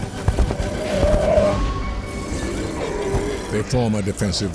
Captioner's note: triceratops grunting